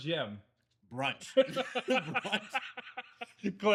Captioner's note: laughing